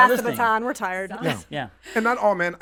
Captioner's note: laughs